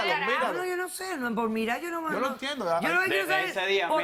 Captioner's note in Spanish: Hablan al unísono